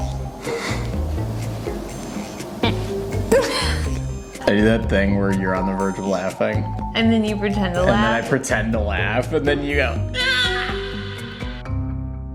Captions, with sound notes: (chuckles) I do that thing where you're on the verge of laughing. - And then you pretend to laugh. - And the I pretend to laugh, then you go "aaaa".